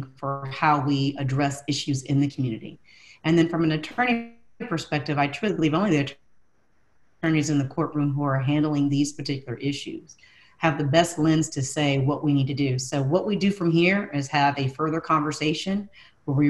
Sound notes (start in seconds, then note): 6.4 audio glitch